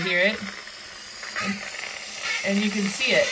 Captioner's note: steam hissing